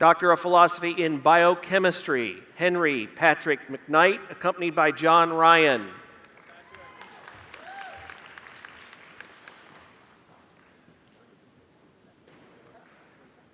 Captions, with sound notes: Doctor of Philosophy in biochemistry. (Applause)